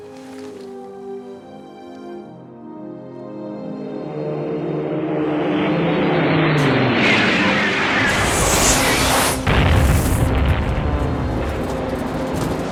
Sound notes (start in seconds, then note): 0.1 buoyant music; 4.0 jet engine roaring; 9.8 bomb exploding